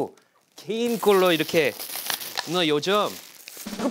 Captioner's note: rustling